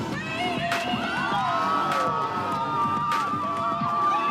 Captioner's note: crowd cheering